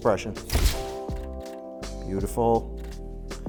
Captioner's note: camera shutter clicking